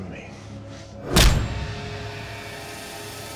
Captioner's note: fist thuds; menacing music